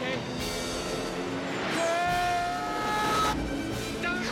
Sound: screaming

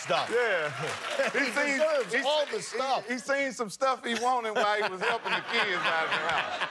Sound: laughter

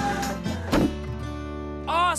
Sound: clank!

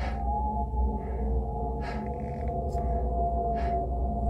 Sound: hard breathing

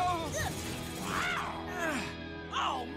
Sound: groaning

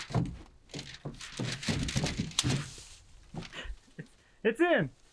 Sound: frame thumping; insulation wrap rustling

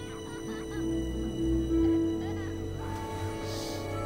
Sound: kids laughing & giggling

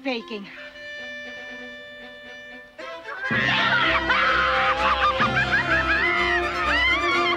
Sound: gentle majestic music; majestic music; all cheering

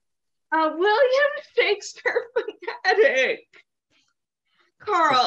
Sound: laughing

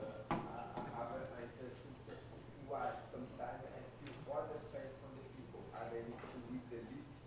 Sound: speaking faintly

